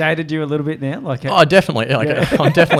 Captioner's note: laughs